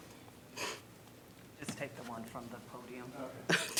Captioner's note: laughter